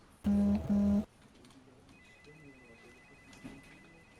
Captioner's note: people chattering; phone beeping